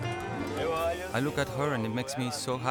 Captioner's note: speaking in Spanish